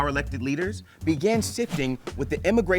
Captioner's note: text whooshes